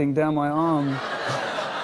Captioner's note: laughter